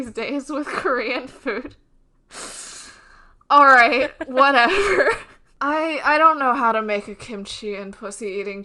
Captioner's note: laughs